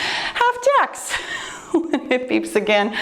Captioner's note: laughs